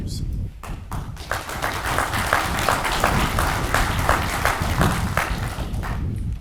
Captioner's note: audience applauds